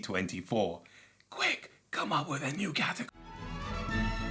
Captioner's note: whispers